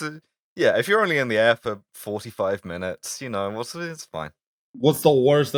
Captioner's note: equivocating noises